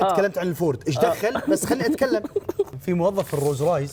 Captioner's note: laughs